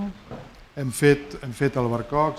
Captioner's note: speaking spanish